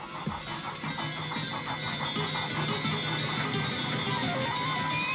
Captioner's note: animal panting